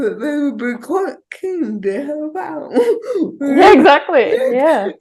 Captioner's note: chuckles